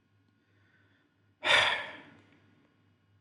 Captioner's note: sigh